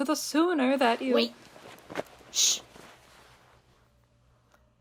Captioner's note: scuffling